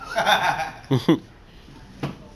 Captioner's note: laughter